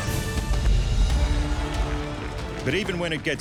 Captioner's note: crowd cheering